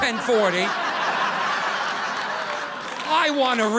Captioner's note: audience laughing